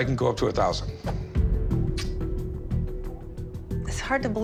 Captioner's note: clicks tongue